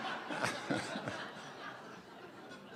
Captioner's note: laughter